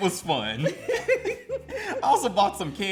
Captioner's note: laugh